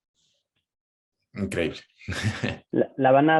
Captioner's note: laughs